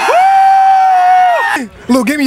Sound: background cheering

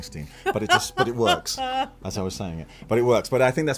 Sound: laughs

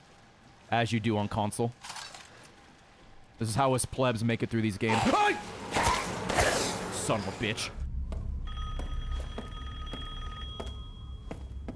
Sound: screams

